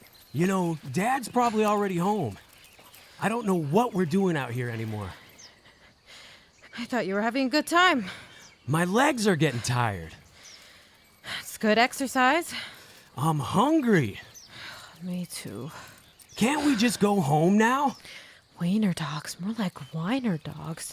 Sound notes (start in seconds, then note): 12.5 pants; 15.4 sighs